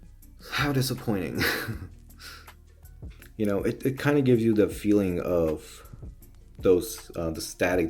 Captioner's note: chuckle